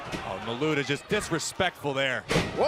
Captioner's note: crowd chatter